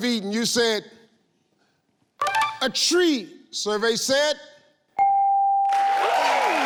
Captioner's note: ding; audience clapping